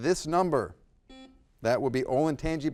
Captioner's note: buzzer buzzes